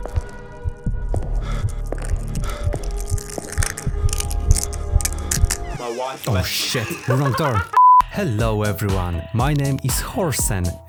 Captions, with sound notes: - My wife left me *maniacal laughter* - OHSHIT, wrong door Hello, everyone. My name is Horsen